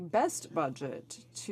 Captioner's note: speaking french